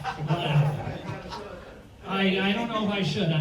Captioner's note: audience laughs